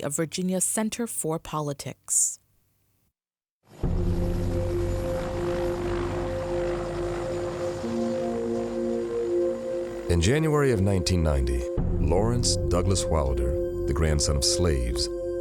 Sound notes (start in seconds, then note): 3.8 suspenseful music; 3.8 helicopters whirring